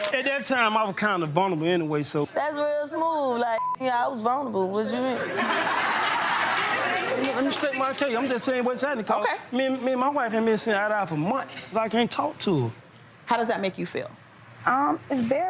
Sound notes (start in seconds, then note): 3.5 beep; 5.0 audience laughing